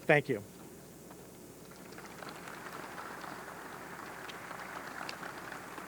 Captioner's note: audience clapping